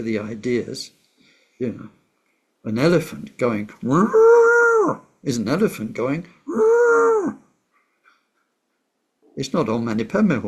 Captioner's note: elephant noise